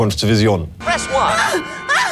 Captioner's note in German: englisch